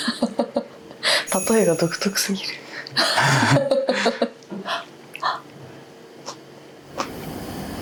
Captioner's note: laughs